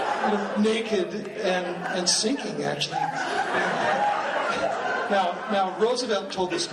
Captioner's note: laughing